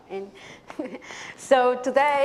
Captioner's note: chuckles